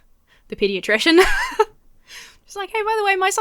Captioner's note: laughs